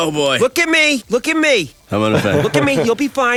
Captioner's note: chuckles